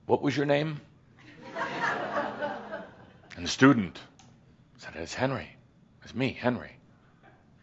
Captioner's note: some chuckles